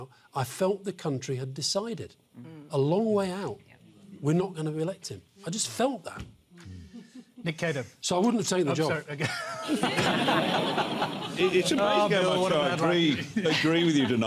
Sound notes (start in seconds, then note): 9.2 laughter